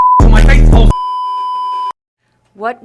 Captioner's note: beeeeeeeeeeeep